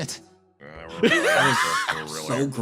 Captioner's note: laughs